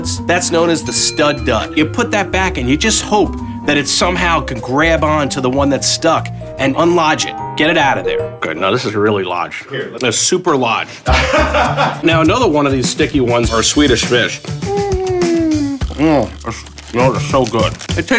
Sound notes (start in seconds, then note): 11.0 man laughing; 14.6 humming